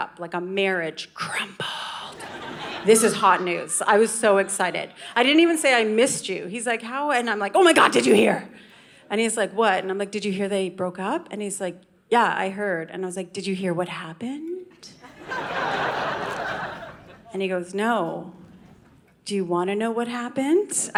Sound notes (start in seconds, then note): 2.2 audience laughing; 15.0 audience laughing